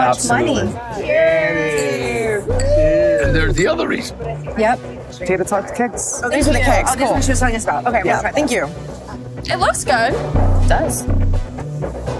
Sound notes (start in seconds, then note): 1.5 glasses clinking